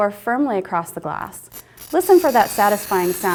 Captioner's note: scratching